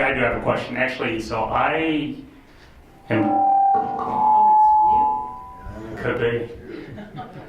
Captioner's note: microphone feedback